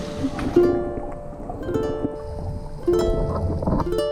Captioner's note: bubbling; guitar music